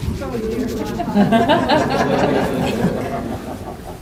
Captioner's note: laughter